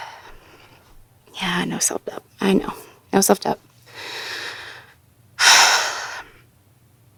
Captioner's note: another sigh